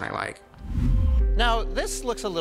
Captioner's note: image whooshes